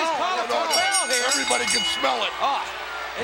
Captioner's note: bell ringing